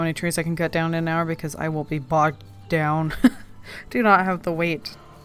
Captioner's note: laughs